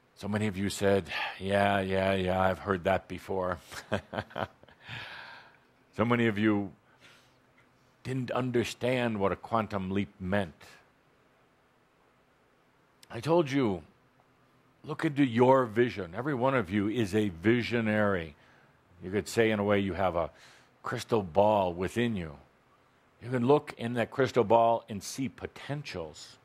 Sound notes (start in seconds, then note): 3.6 chuckles